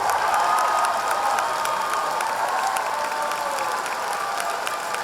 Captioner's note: audience cheering